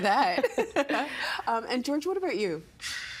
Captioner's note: laughing